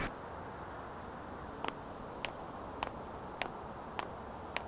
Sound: footsteps fade out

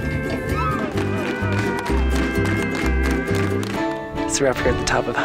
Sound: crowd claps

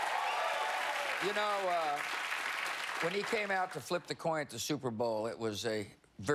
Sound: cheers and applause

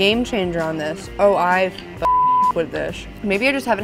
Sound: beep

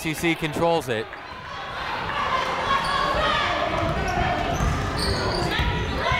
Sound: people shouting in the crowd

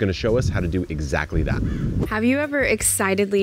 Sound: bird crowing

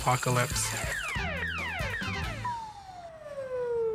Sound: robots warbling

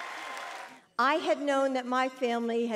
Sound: audience applauding

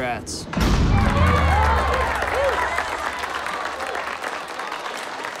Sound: all cheering

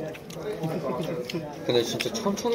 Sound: laughing

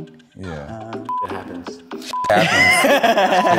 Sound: beep

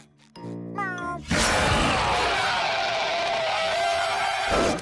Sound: roaring

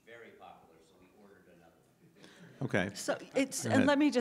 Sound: faintly speaking

